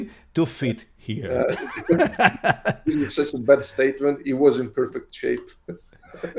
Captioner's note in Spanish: La risa